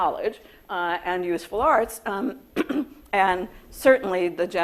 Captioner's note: coughs